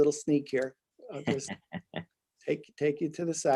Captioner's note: laughing